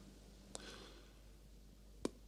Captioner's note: sigh